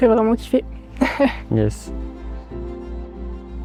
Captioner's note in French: rires